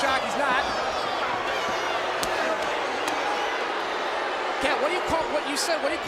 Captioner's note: applause